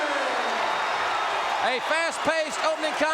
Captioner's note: audience cheering